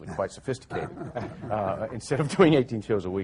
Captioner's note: laughing